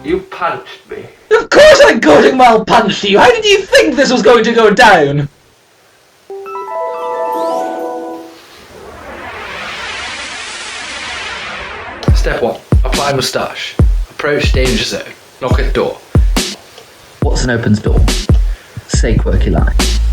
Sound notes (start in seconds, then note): 6.3 flashback noise